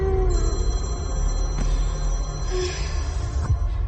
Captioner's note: phone ringing